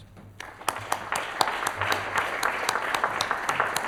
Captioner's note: applause